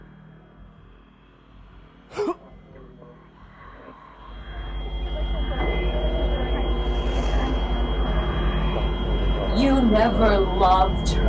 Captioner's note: whoosh sound